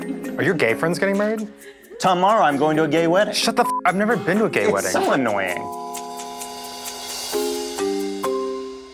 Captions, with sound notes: - Are your gay friends getting married? - Tomorrow I'm going to a gay wedding! - Shut the (beep) up. I've never been to a gay wedding. - It's so annoying. (playful music)